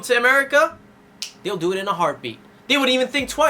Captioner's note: clicks finger